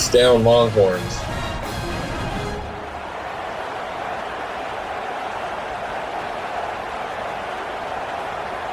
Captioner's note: crowd Noises